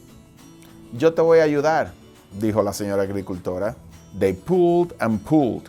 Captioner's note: speaking foreign language